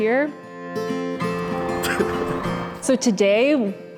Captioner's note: laughs